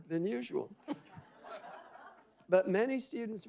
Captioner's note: audience laughing